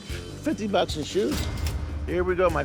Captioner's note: cash register dings